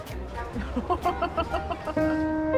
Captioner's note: laughs